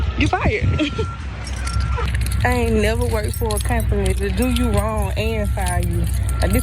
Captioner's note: laugh